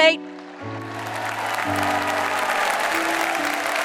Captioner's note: applause